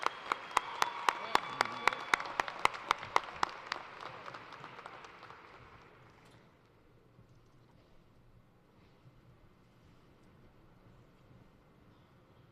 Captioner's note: cheers and applause